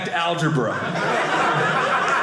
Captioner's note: audience laughing